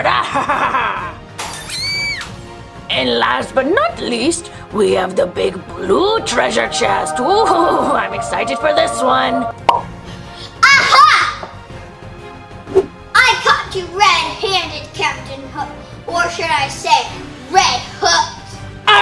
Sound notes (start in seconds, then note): 0.0 laughs; 6.7 magical music; 9.6 popping